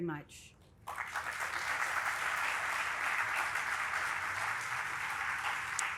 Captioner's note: audience applauding